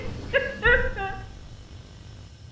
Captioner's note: crying